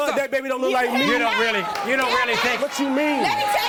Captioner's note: yelling